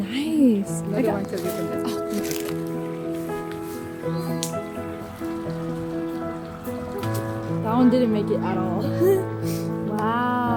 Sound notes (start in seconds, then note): 7.0 rock throwing